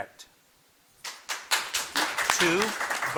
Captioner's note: audience clapping